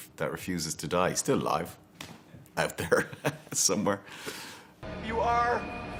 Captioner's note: chuckles